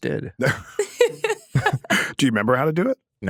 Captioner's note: everyone laughs